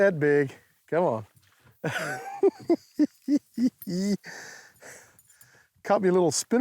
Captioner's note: laughs